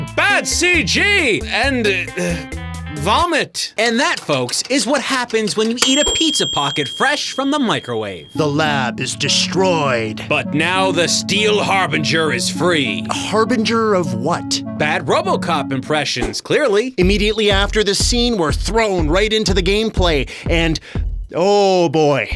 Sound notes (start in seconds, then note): none